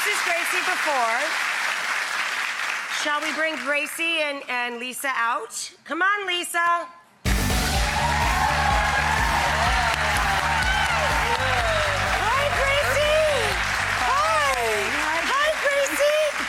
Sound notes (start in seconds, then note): 7.4 upbeat music; 9.2 audience cheers and claps